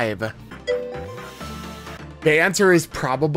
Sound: ding

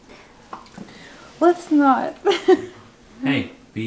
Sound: laughs

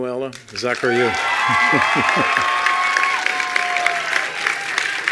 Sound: attendees applauding

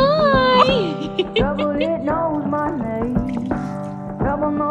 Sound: laughs

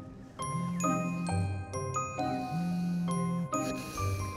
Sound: phone vibrates

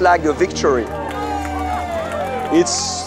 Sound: cheers

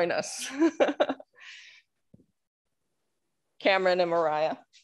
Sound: chuckling

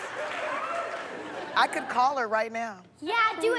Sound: laughter

